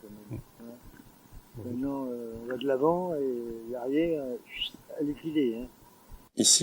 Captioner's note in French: sifflement